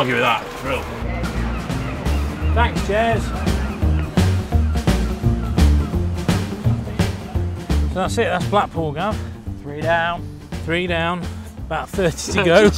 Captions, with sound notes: Thanks, Jaz. (seagulls squawking) (bright music) - So, that's it, that's Blackpool, Gav. - Three down. - Three down. About 30 to go.